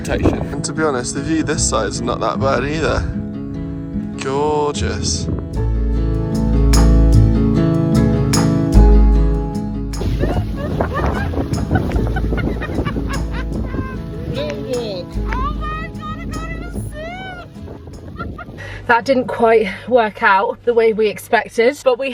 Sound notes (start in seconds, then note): 5.8 relaxed music continues; 9.9 wind whipping; 10.0 laughing